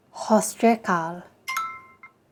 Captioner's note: instructor speaking in foreign language; phone beeping